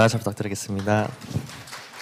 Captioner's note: claps